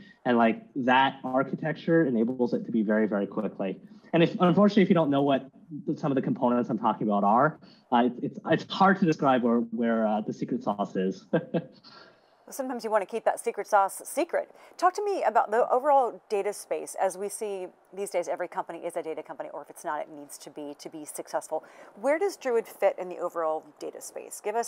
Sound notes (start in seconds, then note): 11.2 chuckling